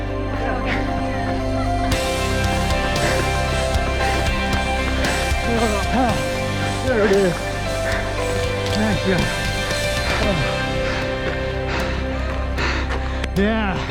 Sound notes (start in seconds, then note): 1.6 laughs